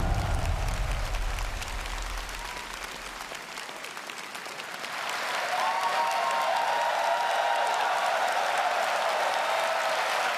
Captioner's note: applause and Cheering